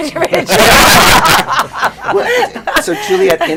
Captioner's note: laughter